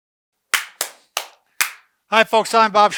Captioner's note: both clapping